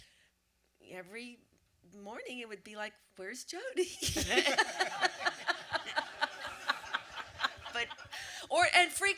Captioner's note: audience laughter